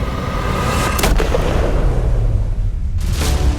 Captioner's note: shot